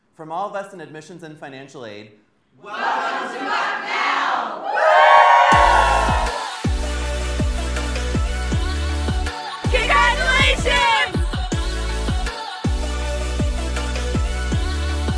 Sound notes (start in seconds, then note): 4.6 excited yells